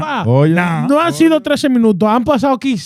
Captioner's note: speaking In Foreign Language